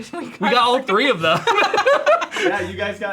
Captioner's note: both laughing